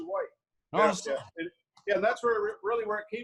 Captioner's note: laughs